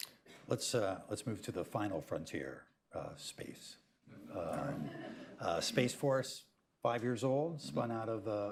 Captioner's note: laughter